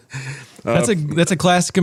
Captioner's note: laughs